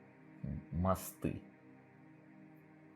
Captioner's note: in russian